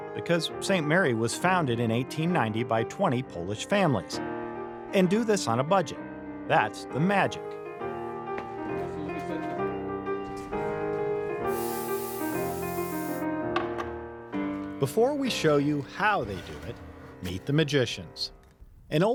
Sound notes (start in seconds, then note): 8.2 upbeat piano music; 11.4 air brush spraying